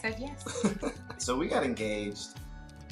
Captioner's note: chuckles